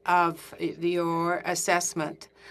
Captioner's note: speaking in French